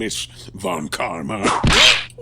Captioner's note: whip crack!